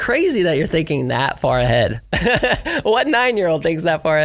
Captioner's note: laughs